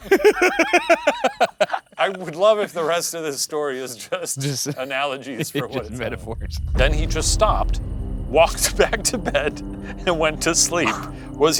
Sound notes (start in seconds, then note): 0.0 laughing; 3.9 laughing; 10.6 laughing